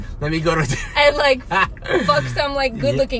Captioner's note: laughs